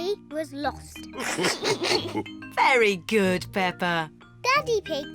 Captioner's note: all laugh